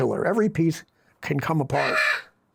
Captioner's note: parrot Squawks